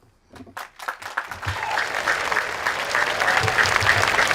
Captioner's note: audience applauds